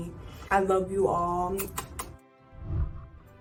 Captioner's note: smacks lips; whooshing